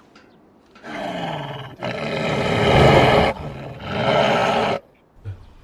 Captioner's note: the roar of snow leopard